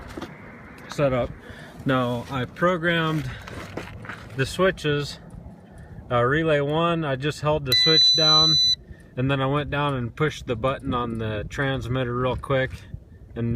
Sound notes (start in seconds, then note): 7.7 beeps